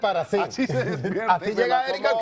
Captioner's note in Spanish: risas